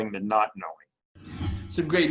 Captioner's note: logo whooshing